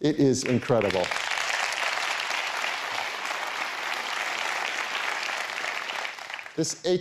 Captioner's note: applause